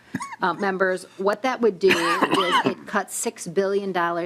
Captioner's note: coughing